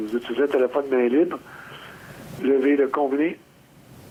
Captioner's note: speaking French